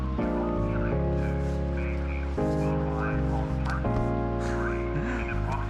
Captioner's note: laughs